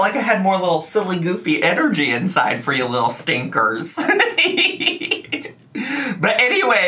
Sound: laughs

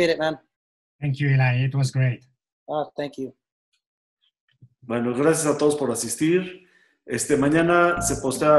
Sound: spanish

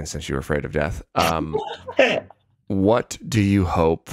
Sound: chuckles

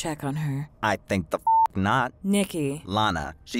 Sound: beep

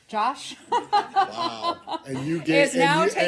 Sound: laughter

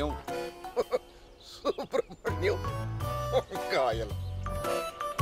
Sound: chuckles

